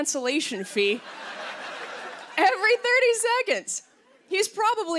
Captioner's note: laughter